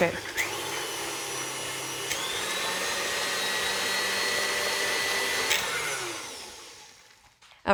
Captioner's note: mixer whirring